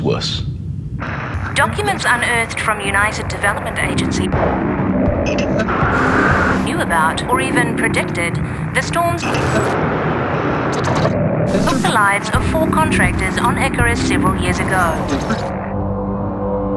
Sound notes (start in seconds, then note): 5.5 loud lightning strike